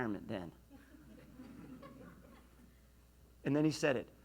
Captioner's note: laughs